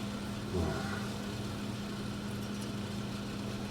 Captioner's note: Nash sighs